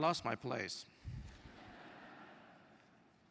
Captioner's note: laugh